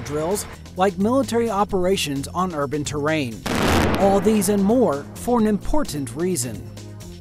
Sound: explosion

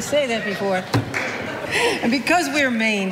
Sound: laughing

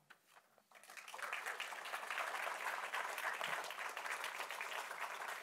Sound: applause

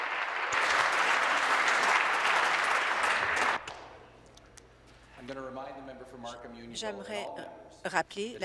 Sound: applause

